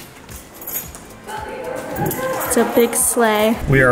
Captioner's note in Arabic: رنين المفاتيح